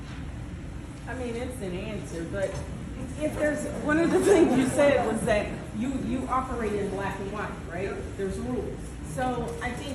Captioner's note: laughter